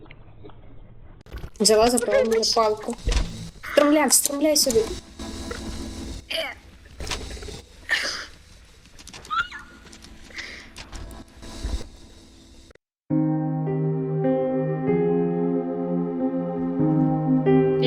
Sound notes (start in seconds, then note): 6.3 sounds of effort; 9.2 sound of panic